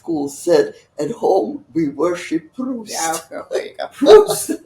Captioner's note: laughing